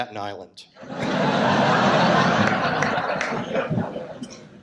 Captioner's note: audience laughs